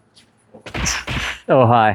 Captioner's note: kung fu sounds